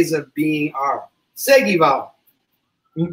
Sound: speaks portuguese

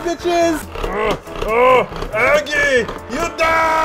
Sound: making ugh sounds while turning the pudding making handle thingy

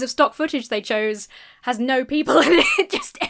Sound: laughs

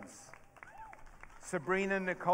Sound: audience cheering

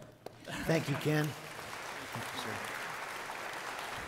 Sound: applauding

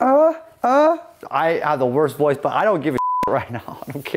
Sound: beep

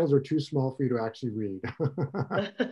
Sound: laughter

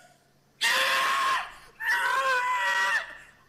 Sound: murder victim screaming

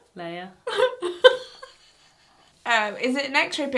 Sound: laughing

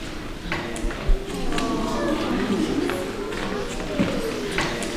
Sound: people chattering

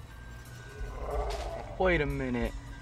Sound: creature growling

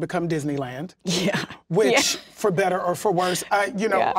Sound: laughs

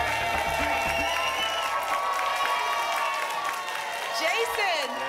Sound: applause and cheering cont

